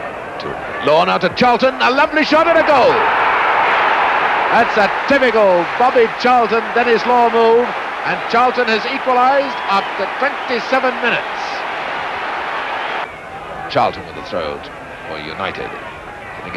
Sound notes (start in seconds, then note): 3.4 crowd roaring